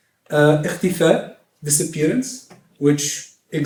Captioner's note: non-english speech